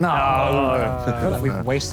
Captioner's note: Sidemen groan